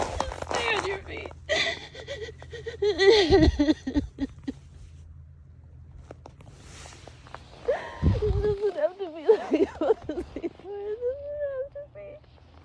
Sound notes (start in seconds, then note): 1.4 continues to sob viscerally